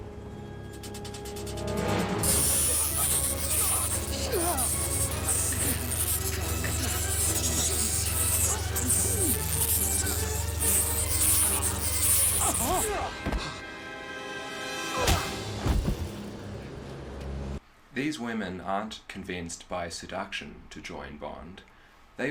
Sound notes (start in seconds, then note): 2.4 electrical spark noises, tense music; 13.2 thud; 13.5 heavy breathing; 15.0 thud